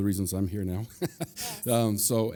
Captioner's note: chuckles